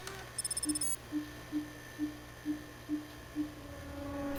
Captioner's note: soft pinging; suspenseful music